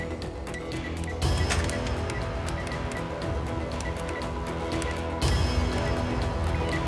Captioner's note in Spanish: bip al marcar números